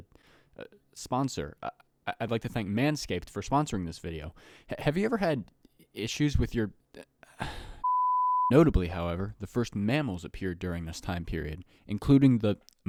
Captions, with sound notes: Uh, sponsor! I'd like to thank Manscaped for sponsoring this video! Have you ever had i-issues with your... *sigh* Notably however, the first mammals appeared during this time period, including the-